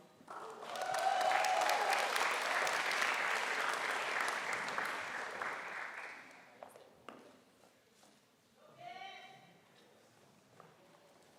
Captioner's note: applause